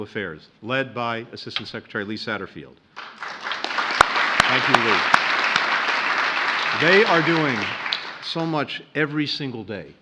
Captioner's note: applause